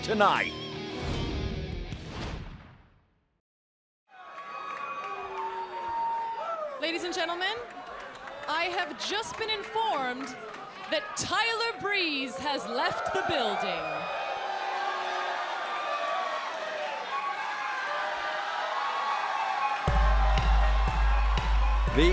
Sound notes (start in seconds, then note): 14.7 crowd cheering